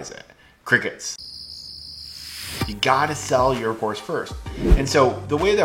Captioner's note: chirping